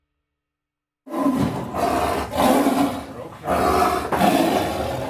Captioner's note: tiger roaring